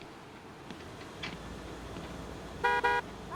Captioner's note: horn honks